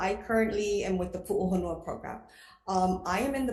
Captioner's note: speaking foreign language